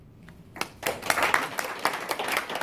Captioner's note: applause